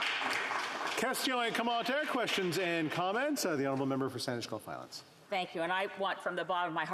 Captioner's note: applause